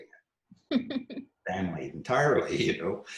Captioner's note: laughs